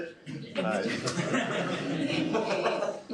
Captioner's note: laughter